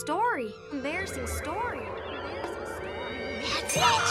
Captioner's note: Lizbeth echoing